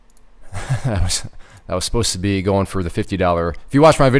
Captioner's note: laughs